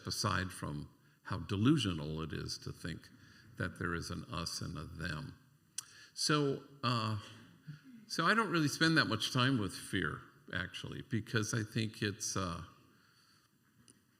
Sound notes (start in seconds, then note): none